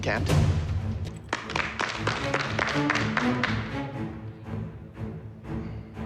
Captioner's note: applause